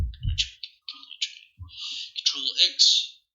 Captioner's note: random mouth noises